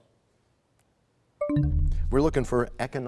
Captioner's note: bell chimes, time expires